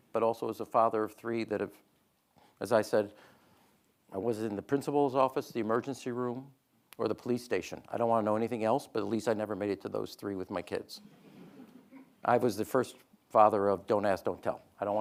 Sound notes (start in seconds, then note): 11.0 audience laughing